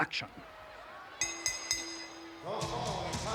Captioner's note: bell ringing